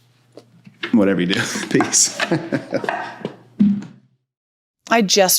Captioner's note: laughs